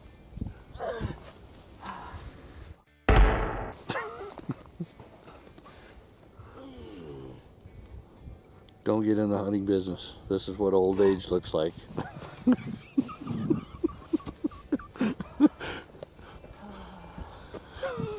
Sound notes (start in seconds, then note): 0.2 moaning; 3.1 drum beat sound; 6.5 groans; 12.0 laughing